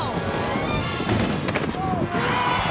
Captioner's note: body thuds; tires screeching